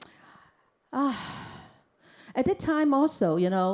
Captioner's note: sighs